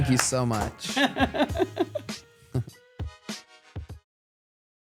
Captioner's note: upbeat music; laughs